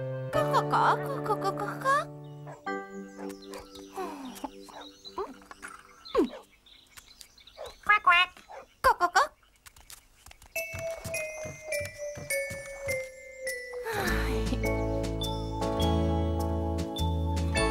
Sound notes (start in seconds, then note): 0.3 clucks; 8.7 clucks; 13.7 sighs